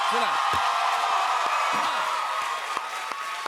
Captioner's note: cheers and applause